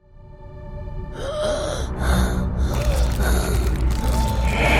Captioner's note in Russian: хрипы; страшный звук